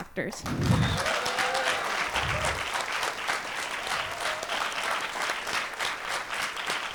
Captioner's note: cheering and applause